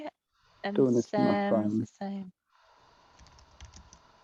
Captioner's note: talking in unison